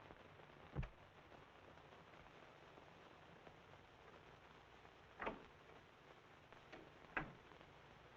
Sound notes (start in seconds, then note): 1.6 door rattling